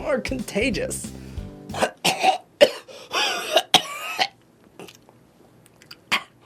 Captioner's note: has a coughing fit